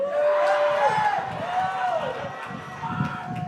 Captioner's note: graduates cheering